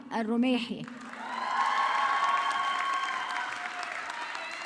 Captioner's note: audience clapping